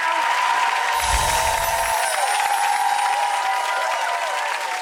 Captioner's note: audience applauds and cheers